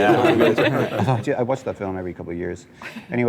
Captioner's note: laughter